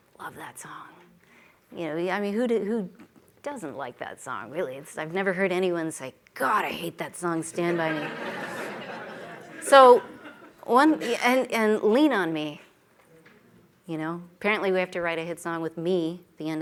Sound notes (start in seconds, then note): 7.6 laughter